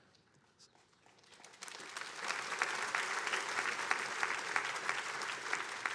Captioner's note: attendees applauding